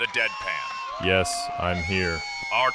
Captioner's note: applause